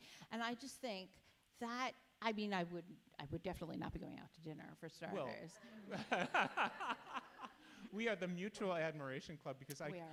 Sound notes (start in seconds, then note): 5.9 laughs